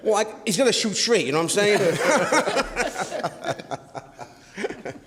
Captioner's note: all laugh